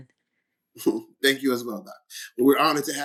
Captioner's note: laughs